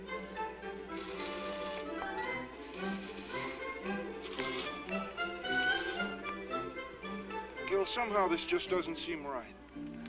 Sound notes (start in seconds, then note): 0.9 milk squirting